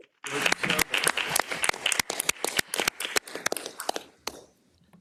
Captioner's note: attendees clapping